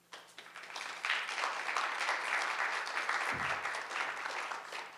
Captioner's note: audience applauding